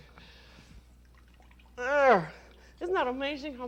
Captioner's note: groans